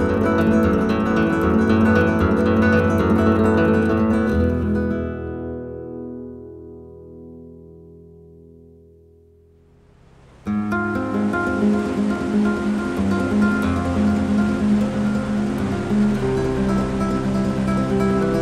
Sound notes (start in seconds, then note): 9.8 rushing water